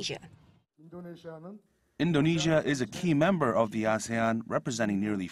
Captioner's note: Korean